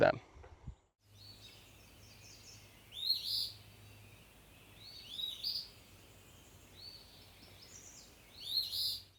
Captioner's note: birds chirping